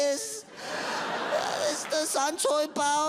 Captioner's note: audience laughs